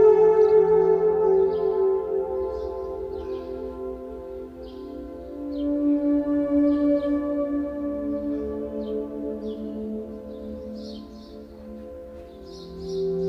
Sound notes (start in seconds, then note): 2.0 birds chirping; 2.0 light gentle relaxing music